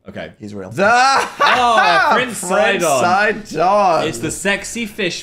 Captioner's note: laughs